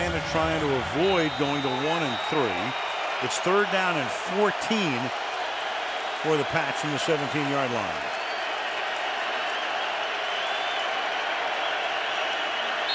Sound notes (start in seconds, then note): 8.7 cheering